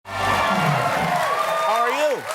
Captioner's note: applause